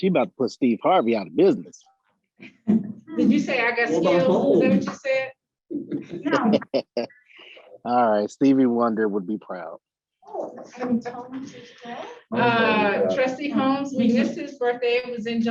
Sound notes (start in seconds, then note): 6.0 laughter